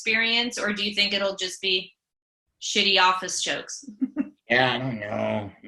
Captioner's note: chuckles